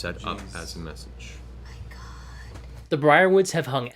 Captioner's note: whispers